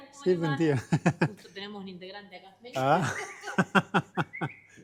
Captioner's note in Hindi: स्पेनिश में बोलते हुए